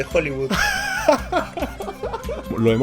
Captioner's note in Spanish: risas